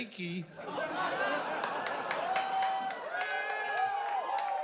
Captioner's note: riendo, vitoreando